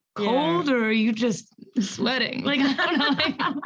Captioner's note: laughs